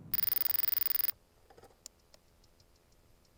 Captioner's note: beeping